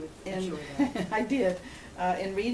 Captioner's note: laughs